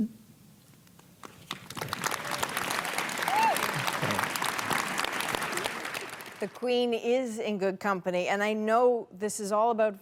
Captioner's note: applause